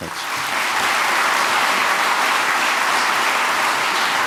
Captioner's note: audience clapping